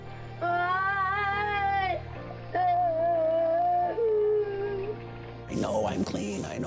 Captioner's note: sobbing